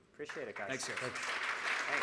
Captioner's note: clapping